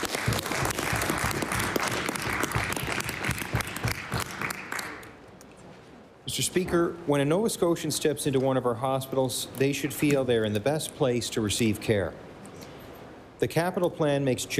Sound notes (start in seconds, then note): 1.9 applause